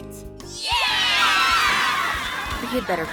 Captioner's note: cheering